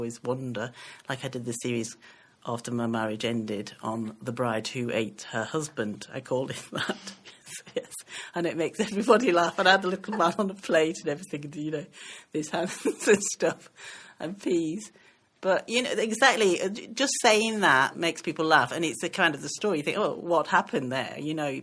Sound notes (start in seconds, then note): 14.2 laughing